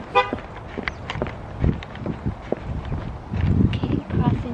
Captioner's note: heels against pavement; car honk